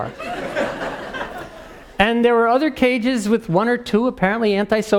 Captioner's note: laugh